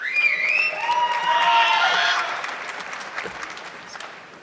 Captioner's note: audience clapping